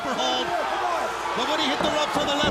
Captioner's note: crowd chatter